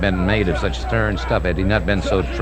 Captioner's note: people shouting